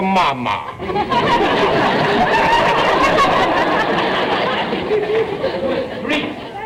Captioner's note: audience laughter